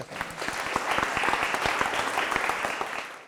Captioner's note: applause